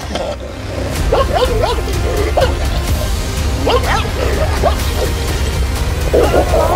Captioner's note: barking, growling sounds and tension-inducing music